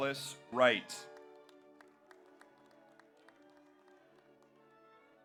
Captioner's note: audience applauds